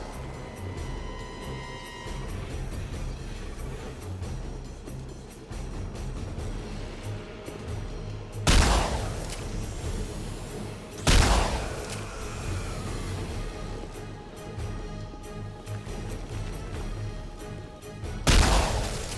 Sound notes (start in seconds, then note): 0.3 dramatic music; 8.4 gun firing